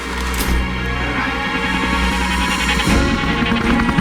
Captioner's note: siren